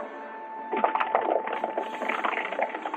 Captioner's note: horses galloping